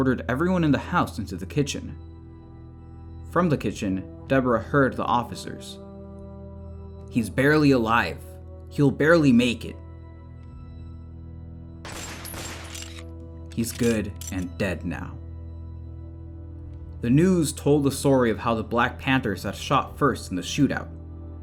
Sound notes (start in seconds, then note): 11.9 two gun shots